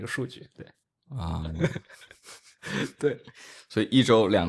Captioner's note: laughs